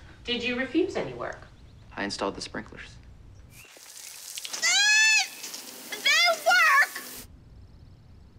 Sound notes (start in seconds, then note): 4.5 screams